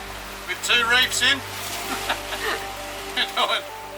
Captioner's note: both laughing